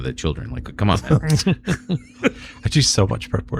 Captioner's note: uh